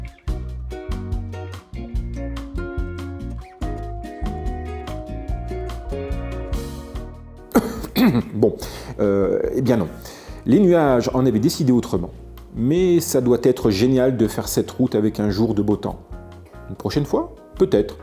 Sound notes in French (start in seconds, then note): 7.5 raclement de gorge; 7.5 toux